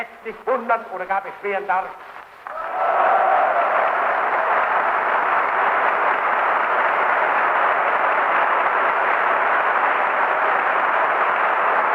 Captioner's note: applause